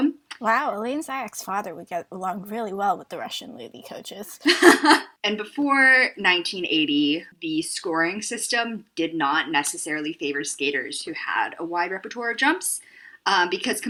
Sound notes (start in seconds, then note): 4.4 laughter